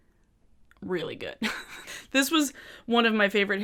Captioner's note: chuckles